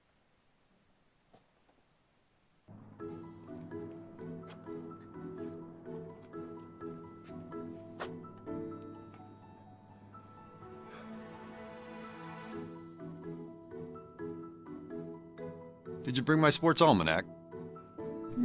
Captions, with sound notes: (whimsical music) (Chuck sighs) - Did you bring my sports almanac?